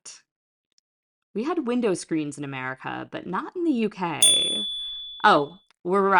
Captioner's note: chime